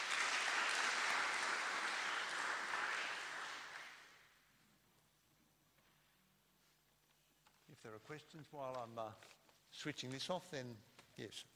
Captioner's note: applause